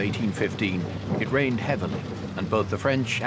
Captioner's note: rain pattering